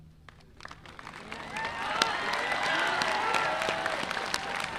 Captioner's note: audience applauding